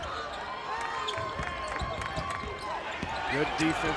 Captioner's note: crowd cheers